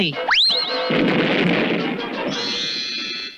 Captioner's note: explosion